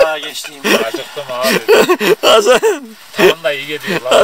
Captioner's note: laughter